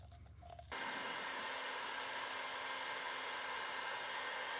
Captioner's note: heat gun blowing